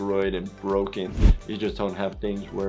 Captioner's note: whooshing